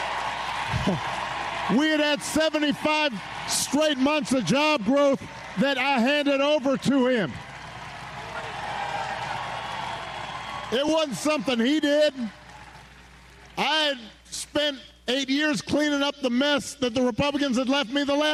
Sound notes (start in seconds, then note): 6.9 applause